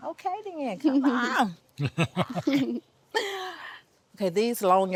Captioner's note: laughing together